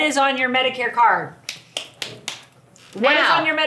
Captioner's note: claps hands